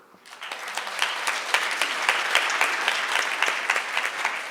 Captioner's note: audience applauds